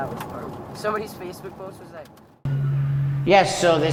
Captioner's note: chattering